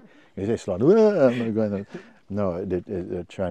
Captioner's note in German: imitiert Abscheu